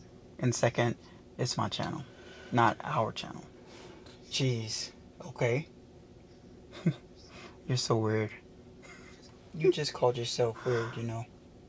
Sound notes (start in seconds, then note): 6.6 chuckles; 8.8 laughs